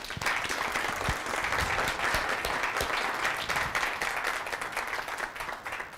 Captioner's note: applause